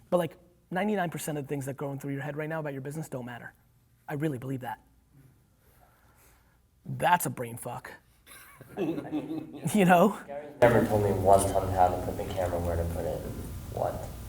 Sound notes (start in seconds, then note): 8.3 laughing